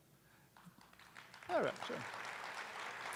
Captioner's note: attendees applauding